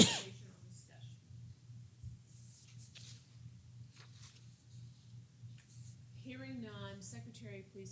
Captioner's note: cough